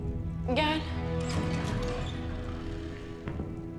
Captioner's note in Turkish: Kapı açılıyor